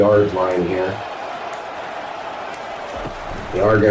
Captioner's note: crowd Noises